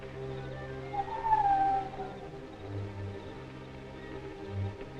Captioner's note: whistling call